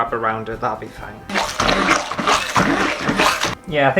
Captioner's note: blending Noises